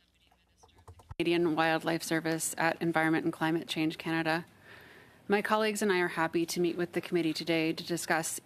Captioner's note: speaking French